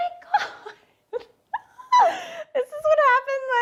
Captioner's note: laughs